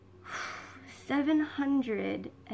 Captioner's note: exhales